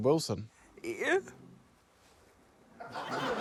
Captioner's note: sobs